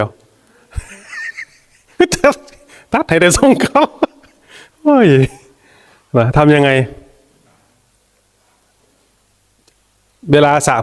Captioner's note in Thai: เสียงหัวเราะ